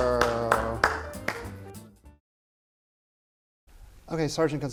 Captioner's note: clapping